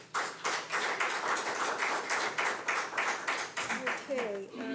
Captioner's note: audience applauds